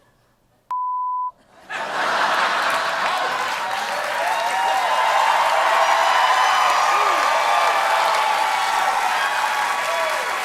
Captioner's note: laughter; cheers and applause